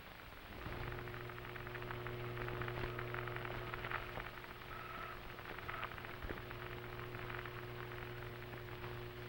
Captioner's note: radio Crackling